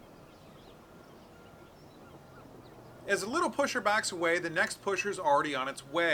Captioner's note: birds chirping